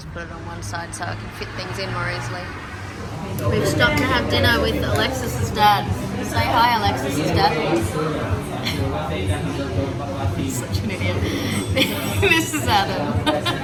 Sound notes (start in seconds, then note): 1.8 loudly revving car goes past; 7.6 lots of talking in background from other restaurant patrons; 10.5 laughing; 10.8 chuckles